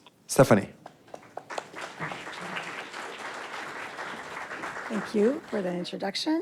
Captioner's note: audience applauds